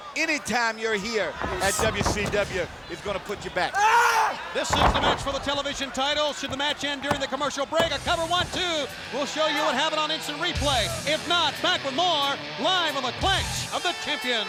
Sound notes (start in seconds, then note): 4.0 body thudding; 4.0 wrestlers grunting; 8.6 hand thudding